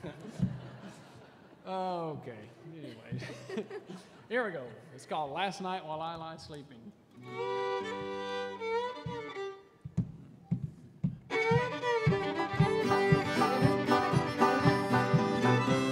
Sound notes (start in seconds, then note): 0.0 audience chuckling